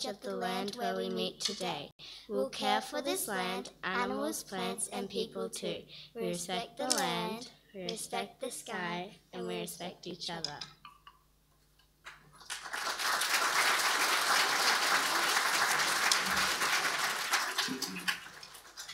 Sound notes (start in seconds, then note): 12.3 audience applauding